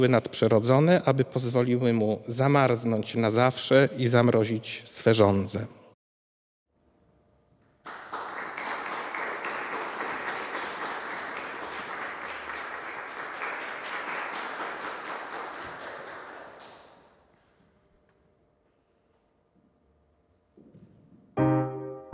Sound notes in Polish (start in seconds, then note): 6.2 oklaski